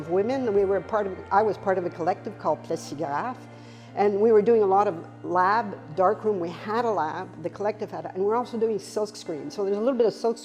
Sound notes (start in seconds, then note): 4.9 foreign language